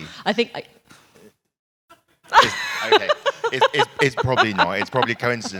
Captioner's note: laugh